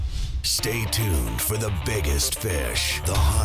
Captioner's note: voiceover